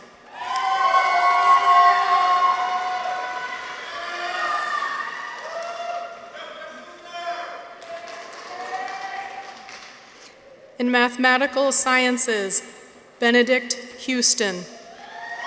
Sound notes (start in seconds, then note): 0.1 people cheer; 0.3 audience applauds; 5.6 audience members cheer